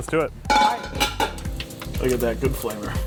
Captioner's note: glass clattering